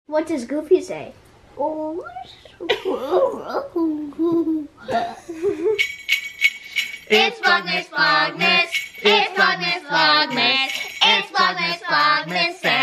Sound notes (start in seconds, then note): 4.0 laughs; 5.4 bells jingling